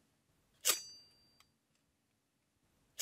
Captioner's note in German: Metallischer Klang